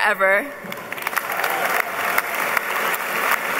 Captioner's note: applause